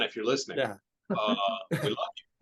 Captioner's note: chuckles